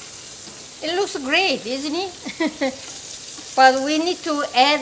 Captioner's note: laughs